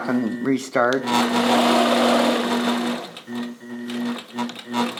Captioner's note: machine whirring